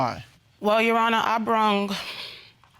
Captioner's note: exhales